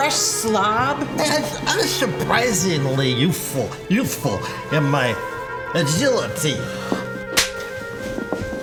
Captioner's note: slap